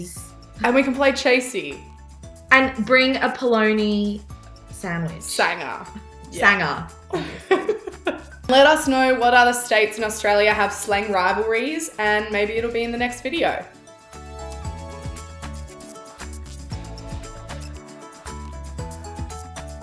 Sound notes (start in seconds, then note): 7.1 laughs; 13.8 upbeat music